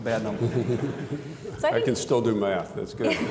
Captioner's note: audience laughing